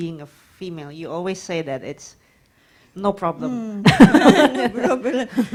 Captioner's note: laughs